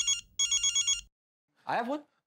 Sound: phone ringing

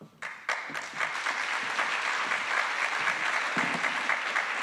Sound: attendees applauding

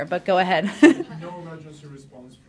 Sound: laughter

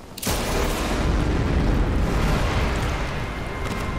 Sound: gun shot

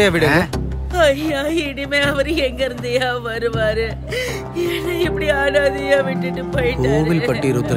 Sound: crying

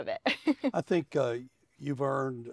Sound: laughs

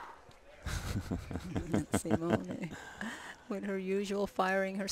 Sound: laughter

